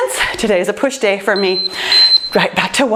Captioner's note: timer beeps